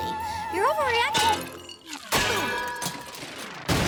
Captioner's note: clank! clang! crash!